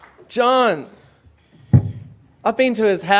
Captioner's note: applause